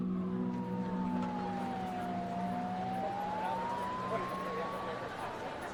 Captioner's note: siren wailing